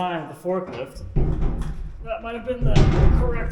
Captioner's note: cyclone thudding